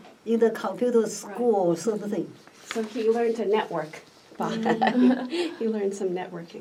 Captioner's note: laughs